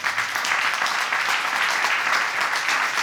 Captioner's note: audience applauding